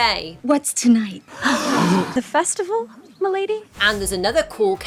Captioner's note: villagers gasp